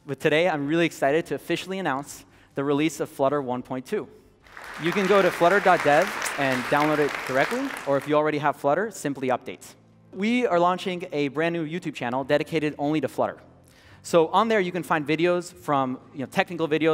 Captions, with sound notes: But today I'm really excited to officially announce the release of Flutter 1.2. [APPLAUSE] You can go to flutter.dev and download it directly, or if you already have Flutter, simply update. We are launching a brand new YouTube channel dedicated only to Flutter. So on there you can find videos from technical videos